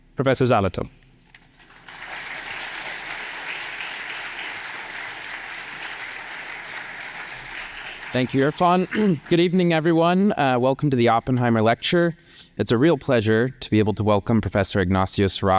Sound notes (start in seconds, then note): 1.4 applause